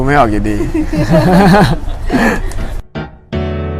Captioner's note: laughs